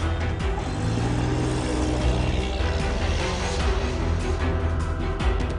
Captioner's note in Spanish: Sonido del carro